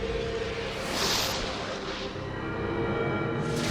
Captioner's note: mysterious music; graphics whooshing; mysterious music